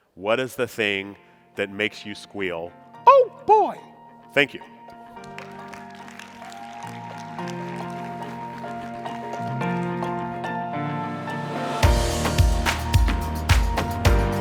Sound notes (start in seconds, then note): 5.2 audience cheering and applauding; 9.8 upbeat music